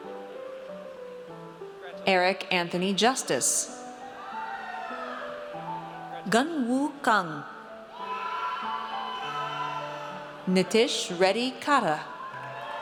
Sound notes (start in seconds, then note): 4.0 audience cheers; 7.8 audience cheers; 12.0 audience cheers